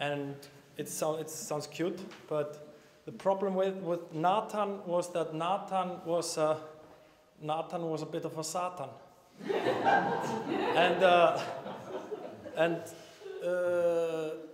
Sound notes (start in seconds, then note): 9.4 laughter